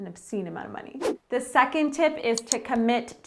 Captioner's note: air whooshing